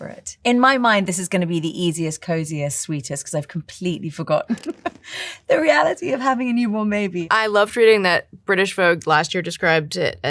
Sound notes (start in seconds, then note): 4.5 laughs